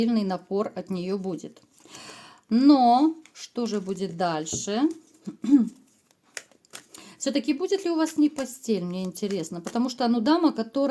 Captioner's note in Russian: откашливается